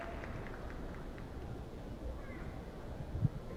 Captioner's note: applause